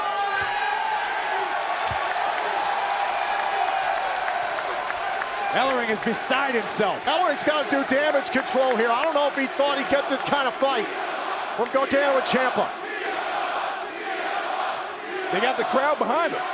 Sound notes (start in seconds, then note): 4.3 crowd cheering